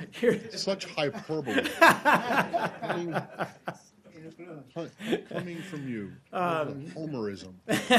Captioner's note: laughter